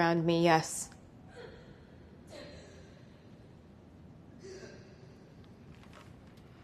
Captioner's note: gasping